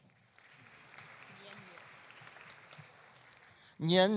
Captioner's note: audience applauding